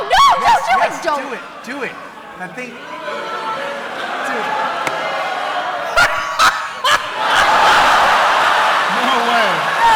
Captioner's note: laughs